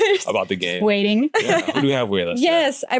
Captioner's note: laughs